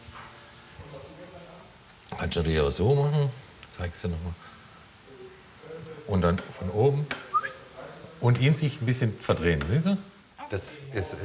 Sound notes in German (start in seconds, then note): 7.3 Pfiff